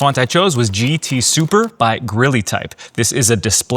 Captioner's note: keyboard clicking